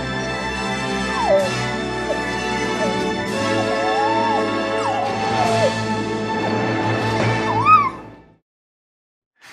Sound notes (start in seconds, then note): 0.1 orchestral music crescendos; 4.0 dog whining